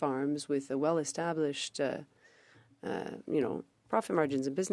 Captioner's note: speaking French